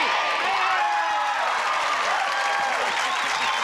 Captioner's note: cheering